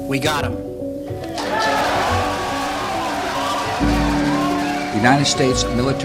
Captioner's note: crowd cheering and applauding